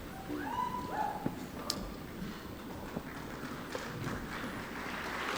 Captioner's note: audience applauding